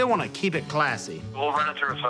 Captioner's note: on phone